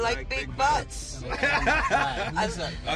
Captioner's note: laughing